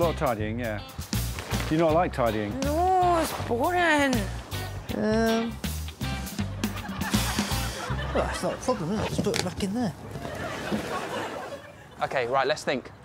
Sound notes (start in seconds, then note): 7.2 exhales